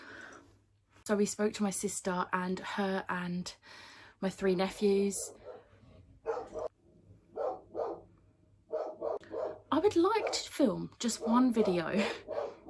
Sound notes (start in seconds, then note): 7.3 dog barking in the background